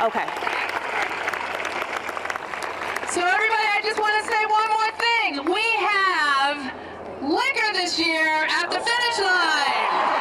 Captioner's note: applause